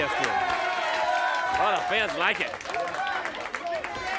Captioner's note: crowd cheering